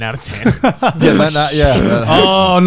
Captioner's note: Garnt laughing